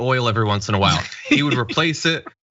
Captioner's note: laugh